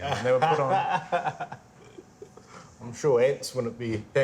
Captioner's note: man laughs